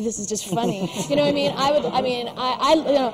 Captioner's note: laughter